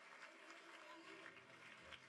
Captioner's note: applause